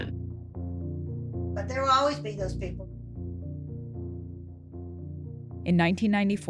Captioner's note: soundbite of archived recording